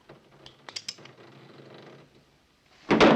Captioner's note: gun hammer cocks